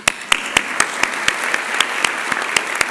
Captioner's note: applause